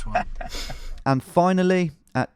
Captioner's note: driver laughing